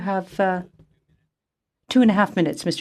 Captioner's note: speaking FRENCH